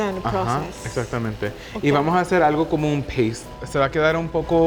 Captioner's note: speaking Spanish